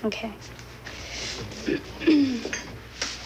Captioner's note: clears throat